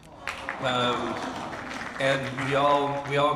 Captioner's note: audience applauds